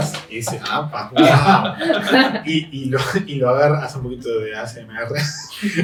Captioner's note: laughs